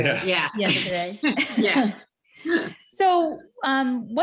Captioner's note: all chuckle